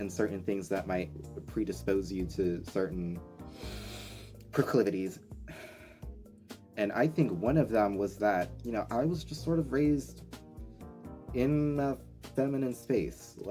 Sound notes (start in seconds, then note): 3.4 deep breaths